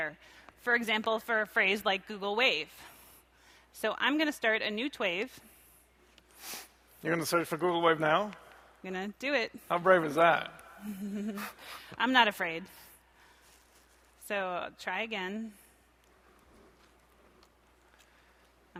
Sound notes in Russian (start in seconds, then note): 10.8 усмехаясь